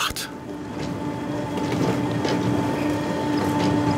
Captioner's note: whirring, soft squeaking